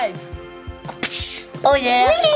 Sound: smacking noise

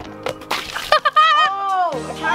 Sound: laughing

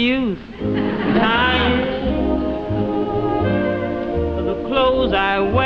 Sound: audience laughing

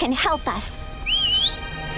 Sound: whistles

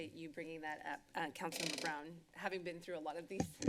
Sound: chairs creaking; mic noise

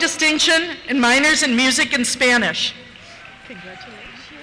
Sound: cheers

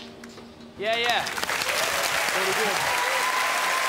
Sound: crowd appluads and cheers

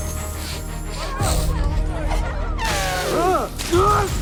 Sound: elephant sniffling

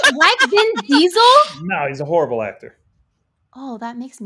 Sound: laughing

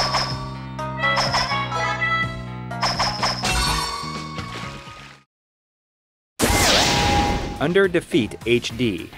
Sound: game audio

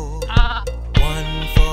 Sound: sheep bleats

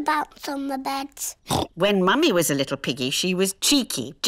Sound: oinks

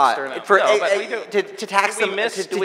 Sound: audience laughing

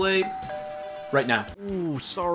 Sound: doorbell rings

